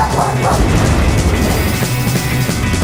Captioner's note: barking; rock music; thunder crashing